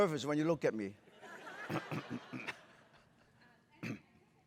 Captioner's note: laughter